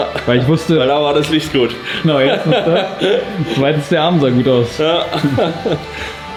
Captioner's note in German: gelächter